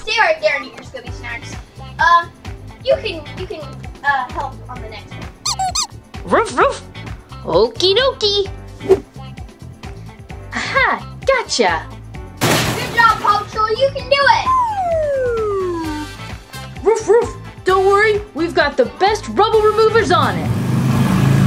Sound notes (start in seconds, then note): 6.0 Marshall barking; 12.4 machine crashing